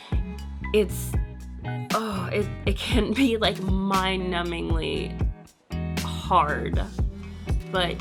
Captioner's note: groans